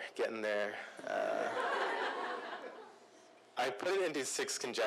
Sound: laughter

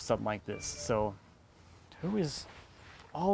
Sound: phone bleeps

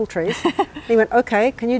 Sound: laughs

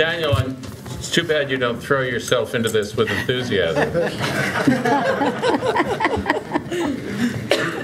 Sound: laughter

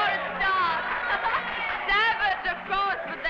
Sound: crowd cheering and applauding

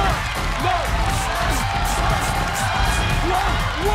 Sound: blowing

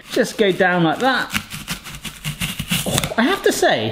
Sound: crunching

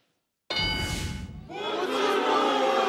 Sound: board dings

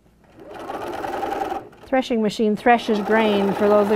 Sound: machine sewing

